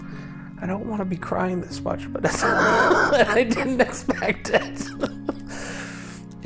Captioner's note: laughs